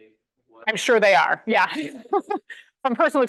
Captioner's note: laughs